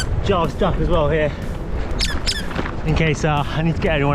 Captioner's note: duck squeak